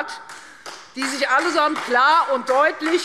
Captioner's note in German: Beifall Freie Demokraten